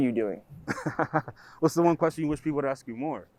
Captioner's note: laughs